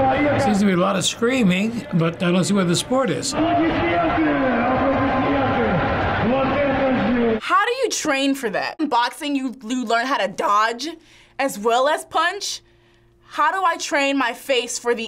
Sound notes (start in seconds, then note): 4.2 announcer speaking in Russian